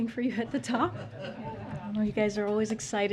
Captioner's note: laughter